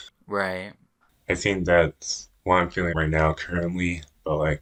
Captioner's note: none